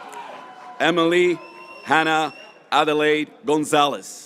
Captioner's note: graduates cheering